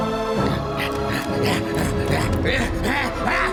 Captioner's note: goblin grunting